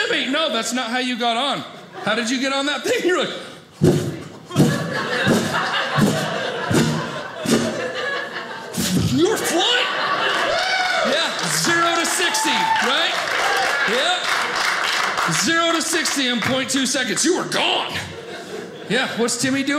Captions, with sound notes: No, that's not how you got on. How did you get on that thing? You're like— (swooshing noises) You were flying! (audience cheering) Yeah, zero to 60. Right? Yep. Zero to 60 in .2 seconds. You were gone! Yeah. What's Timmy doing?